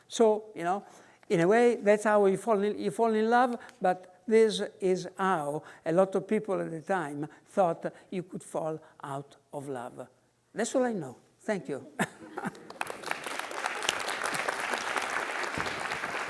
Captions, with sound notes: So, in a way, that's how you fall in love, but this is how a lot of people in the time thought you could fall out of love. That's all I know, thank you. (laughs) (audience clapping)